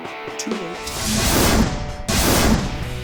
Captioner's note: rumbles